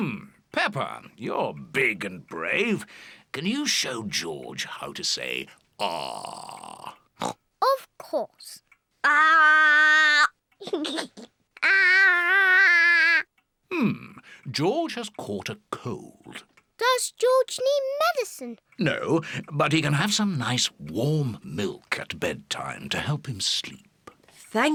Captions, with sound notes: Hmm, Peppa, you're big and brave. Can you show George how to say, "Ahhh"? (OINKS) Of course. Ahhh! (GIGGLES) Ahhh! Mmm. George has caught a cold. Does George need medicine? No, but he can have some nice, warm milk at bedtime to help him sleep.